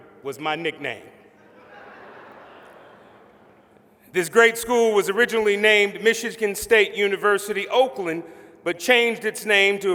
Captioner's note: laughter